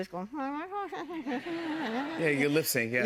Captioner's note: laughter